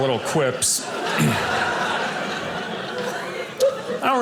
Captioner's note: audience laughing